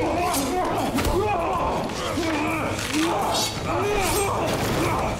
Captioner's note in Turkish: Boğuşma ve darp sesleri